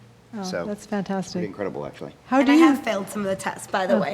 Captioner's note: laughing